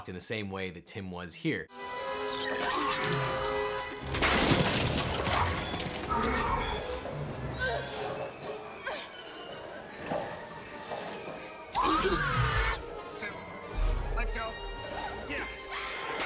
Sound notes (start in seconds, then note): 1.9 bones clattering; 1.9 tense music; 8.2 dinosaur growls; 8.2 groaning; 15.2 yells